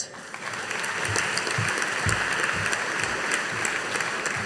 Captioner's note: audience applauding